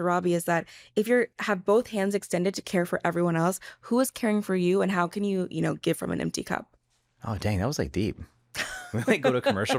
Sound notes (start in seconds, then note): 8.8 laughs